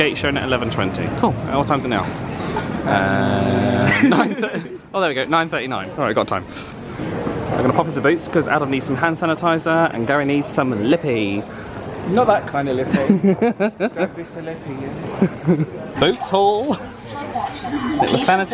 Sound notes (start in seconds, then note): 3.8 both laugh; 12.9 laughs